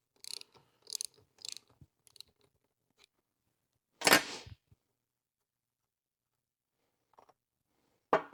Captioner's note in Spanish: Clicking